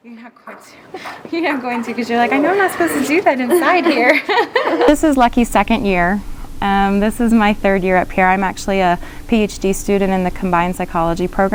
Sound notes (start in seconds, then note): 3.2 laughter